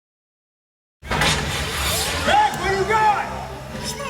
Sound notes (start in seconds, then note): 1.1 firework launches